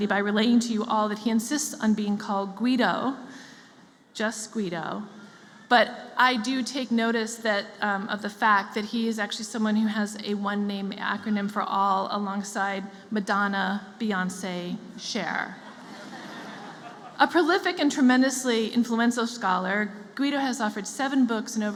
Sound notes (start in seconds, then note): 15.6 laughter